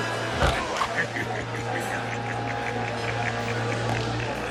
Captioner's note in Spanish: Risas